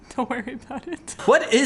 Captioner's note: laughing